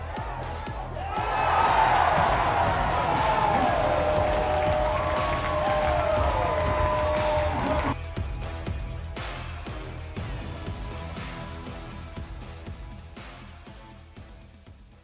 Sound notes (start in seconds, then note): 1.2 cheering